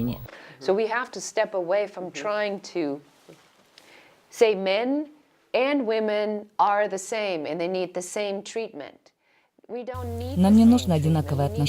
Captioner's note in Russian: Разговаривают на английском